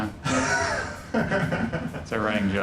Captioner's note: laughing